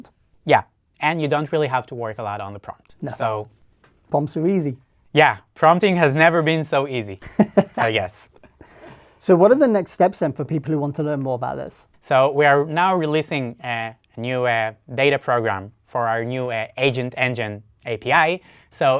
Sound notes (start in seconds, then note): 7.2 laughs